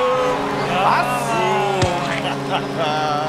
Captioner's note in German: Triumphales Lachen